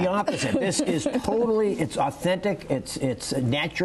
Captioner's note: laughter